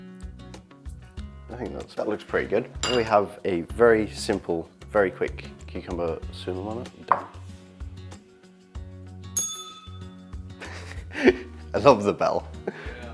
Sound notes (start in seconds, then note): 9.4 bell rings; 10.6 laughs